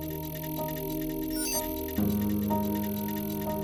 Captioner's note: signal pulses